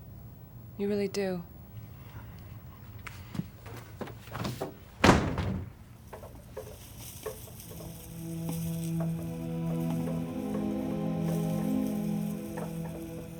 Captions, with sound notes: You really do. (door slams) (branches tapping at the window)